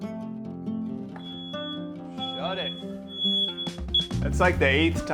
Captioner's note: fire alarm beeping